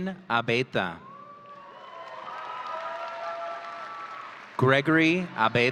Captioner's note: audience cheering